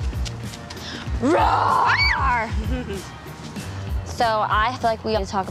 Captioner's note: squeals